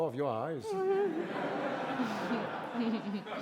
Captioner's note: giggles